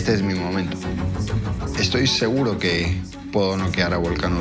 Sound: speaking in Spanish

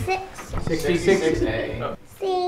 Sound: multiple voices

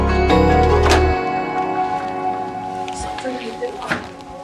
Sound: door clicks

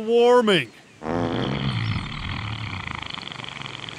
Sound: farts

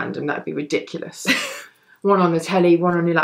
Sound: laughs

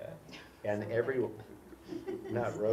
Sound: laugh

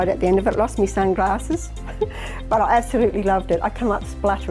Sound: laughs

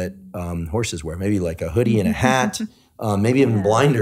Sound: laughing

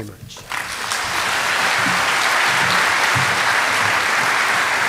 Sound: applause

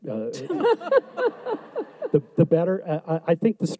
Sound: audience laughs

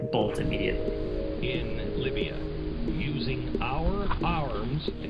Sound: people talking through a speaker

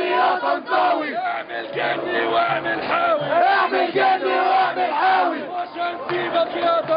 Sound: chants

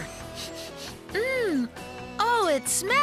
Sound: sniffing

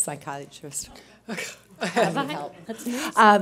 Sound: laughter

